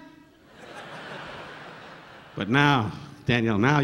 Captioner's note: audience laughing